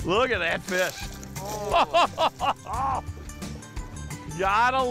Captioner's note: chuckling